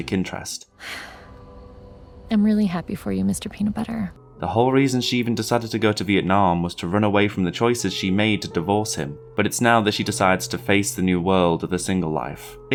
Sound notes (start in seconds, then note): 0.8 sigh